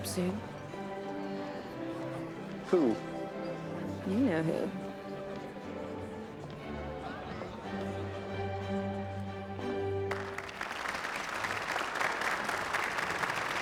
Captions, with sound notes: Who? You know who. [music ending] [clapping]